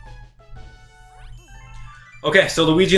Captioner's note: gaming sounds